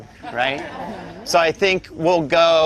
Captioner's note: group laughter